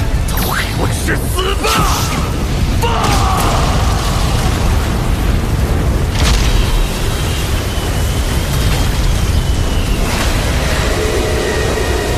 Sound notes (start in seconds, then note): 2.7 explosion